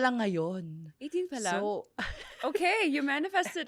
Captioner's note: laughs